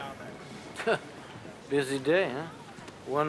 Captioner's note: wry laugh